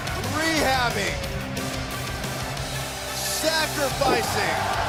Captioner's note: crowd cheering